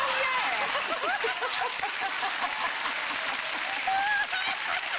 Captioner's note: audience laughing